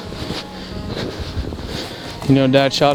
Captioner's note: sound of walking